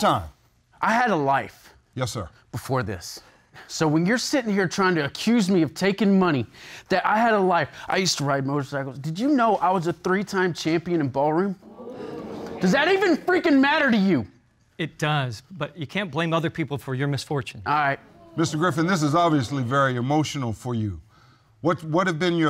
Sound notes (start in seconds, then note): 11.6 audience gasps; 13.1 shouts